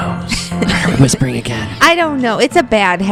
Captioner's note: laughs; whispering